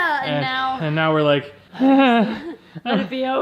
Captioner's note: sighs loudly